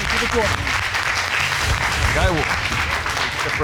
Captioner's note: audience applauding